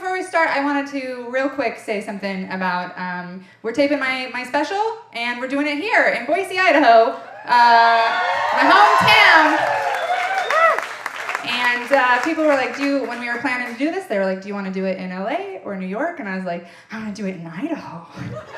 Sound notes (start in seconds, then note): 9.3 audience applauding and cheering